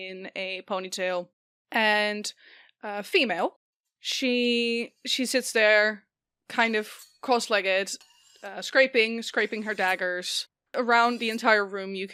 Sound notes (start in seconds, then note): 6.6 ominous scraping of metal on metal